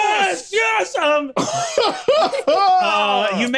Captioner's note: laughs